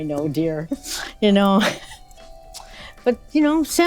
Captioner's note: laughs